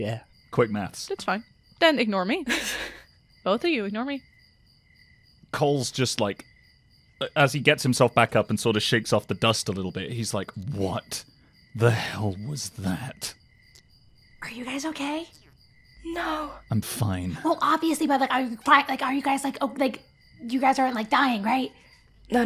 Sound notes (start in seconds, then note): 2.4 laughs; 14.4 whispering